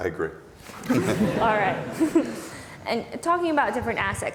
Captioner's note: laughs